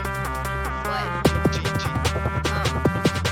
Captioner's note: non-english speech